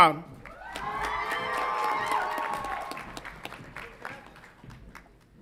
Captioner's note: audience applauds and cheers